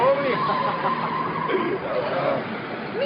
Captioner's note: speaking spanish